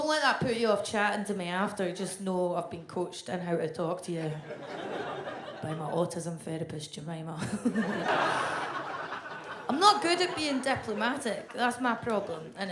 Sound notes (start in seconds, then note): 7.5 audience laughs